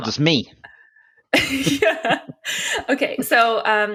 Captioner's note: laughing